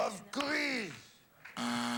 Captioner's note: imitating cookie monster; buzzer